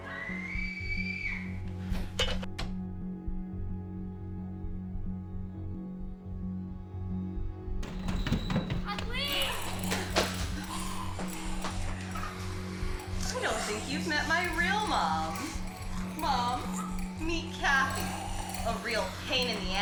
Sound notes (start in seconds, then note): 0.0 Robin screams; 10.9 Sandra and Dottie snarling; 10.9 chains rustling